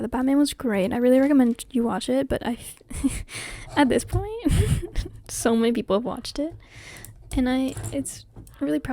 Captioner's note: haha